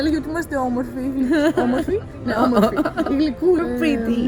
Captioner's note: giggles